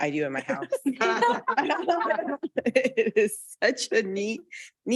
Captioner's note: Board Trustees and attendees laugh